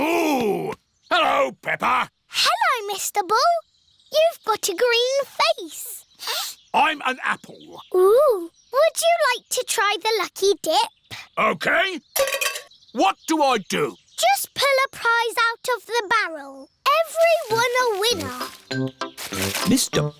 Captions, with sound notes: Moo. Hello, Peppa. Hello, Mr. Bull. You've got a green face. (SNIFFS) I'm an apple. Ooh. Would you like to try the lucky dip? OK. What do I do? Just pull a prize out of the barrel. Everyone a winner.